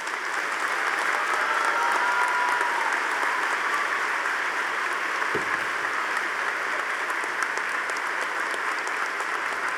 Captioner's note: audience applauding